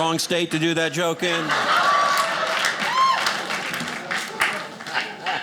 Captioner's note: audience laughing